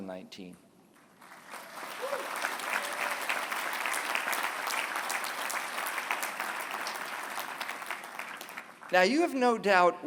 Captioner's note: applause